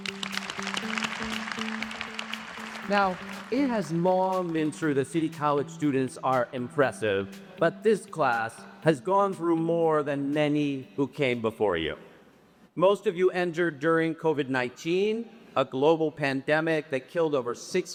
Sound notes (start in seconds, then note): 2.5 applause